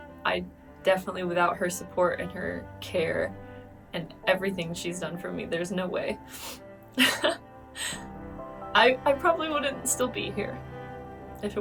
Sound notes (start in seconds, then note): 7.0 laughs